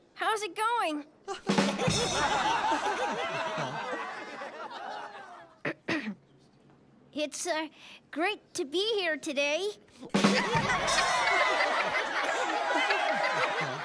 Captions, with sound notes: HOW'S IT GOING? (EVERYONE GIGGLES) (CLEARS THROAT) IT'S GREAT TO BE HERE TODAY! (GIGGLES)